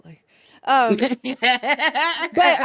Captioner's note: laughing